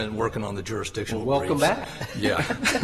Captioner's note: laughter